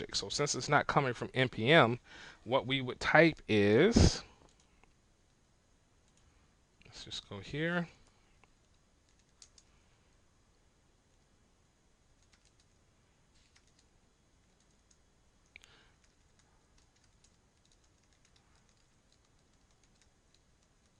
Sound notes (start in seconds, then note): 3.9 silence; 18.3 silence